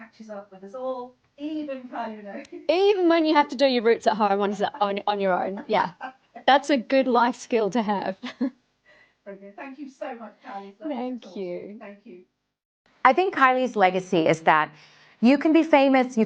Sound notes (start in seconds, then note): 4.3 interviewer 9 laughing; 8.2 laughing